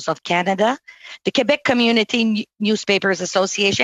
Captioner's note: speaking French